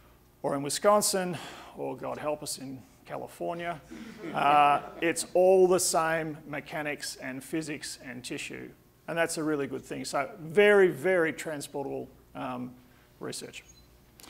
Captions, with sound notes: or in Wisconsin or, God help us, in California. [audience laughing] It's all the same mechanics and physics and tissue, and that's a really good thing. So, very, very transportable research.